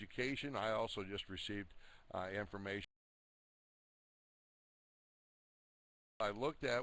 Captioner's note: audio drops